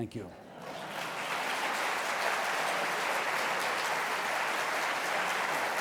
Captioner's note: applause